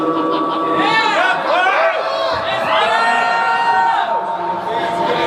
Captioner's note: audience cheering